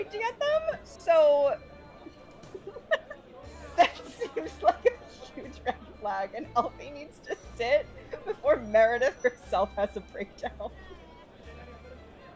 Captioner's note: laughs